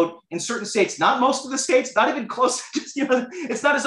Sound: laughter

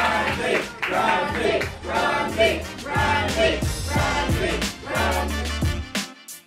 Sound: crowd

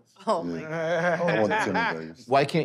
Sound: laughs

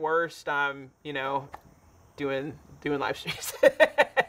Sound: laughs

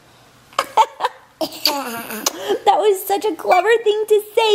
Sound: laughing

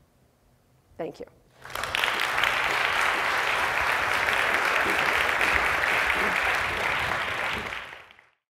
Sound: applause

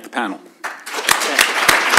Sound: applause

